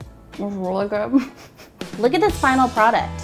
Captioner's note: laughs